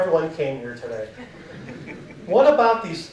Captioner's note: audience chuckling